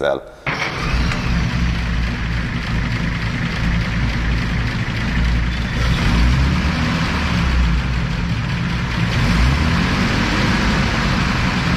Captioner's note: revving engine noises